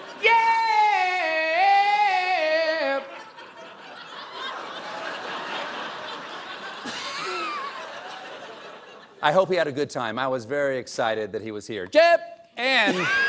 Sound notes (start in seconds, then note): 2.8 laughter